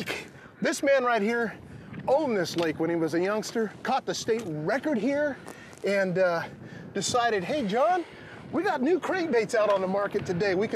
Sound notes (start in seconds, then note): none